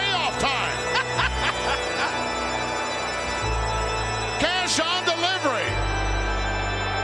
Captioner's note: laugh